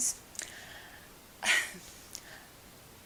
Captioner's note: sighs